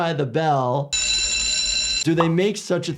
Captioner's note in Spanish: suena la campana